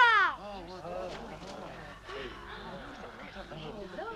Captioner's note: chieftains murmuring